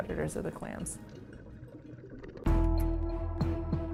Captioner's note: water bubbling; lively music